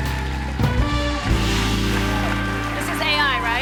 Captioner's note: cheers and applause